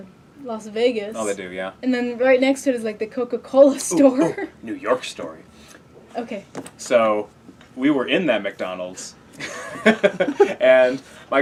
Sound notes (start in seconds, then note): 4.0 laugh; 9.4 laugh